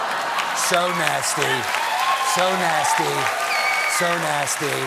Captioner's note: cheers and applause